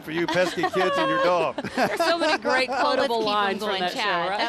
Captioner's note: laughing